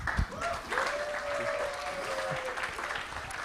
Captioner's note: cheering, applause